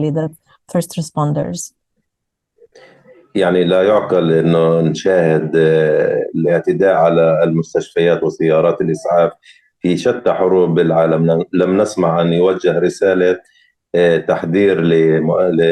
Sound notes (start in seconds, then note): 3.3 speaking arabic